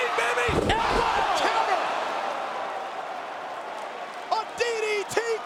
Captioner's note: audience groans